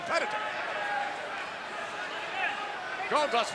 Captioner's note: crowd yelling